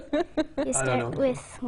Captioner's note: laughing